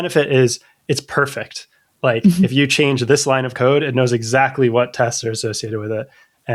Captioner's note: laughter